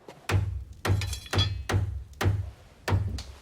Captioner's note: knocking